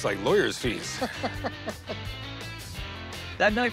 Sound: laughs

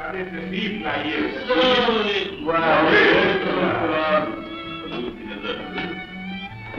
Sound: speaking 'foreign' language

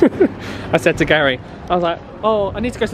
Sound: laughs

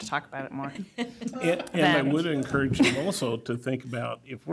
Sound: laughter

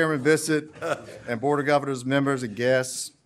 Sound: laughter

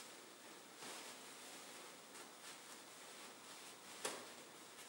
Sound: fabric rustling

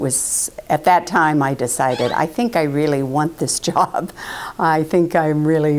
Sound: laugh

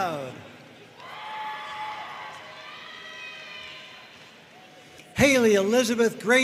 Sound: audience cheering and applauding

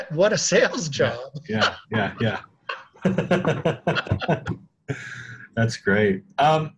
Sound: both laughing

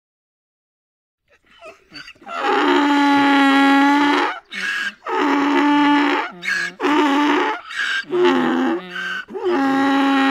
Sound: sound of donkey

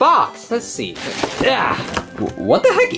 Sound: grunting

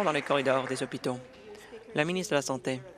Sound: applause

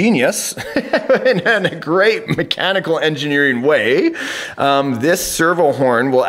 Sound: laughs

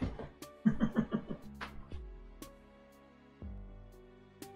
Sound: chuckles

